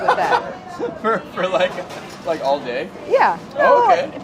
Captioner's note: laughs